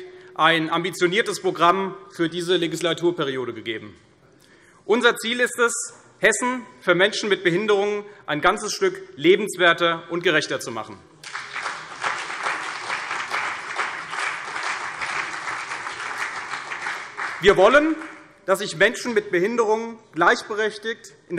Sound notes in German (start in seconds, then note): 11.2 Beifall CDU und vereinzelt BÜNDNIS 90/DIE GRÜNEN